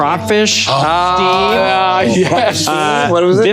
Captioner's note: group gasping